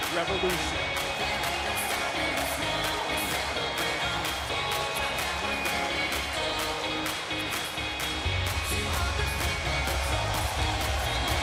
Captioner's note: crowd cheering